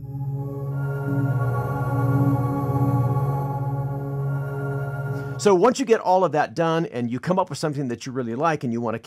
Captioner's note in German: Soundeffekte